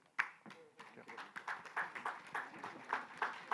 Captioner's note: applause